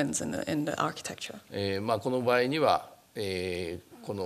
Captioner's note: speaking japanese